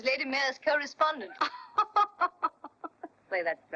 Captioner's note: laughing